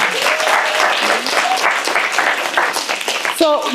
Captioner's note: applause